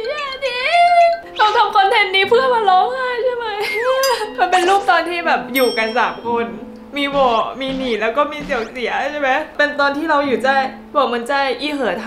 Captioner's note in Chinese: 哭泣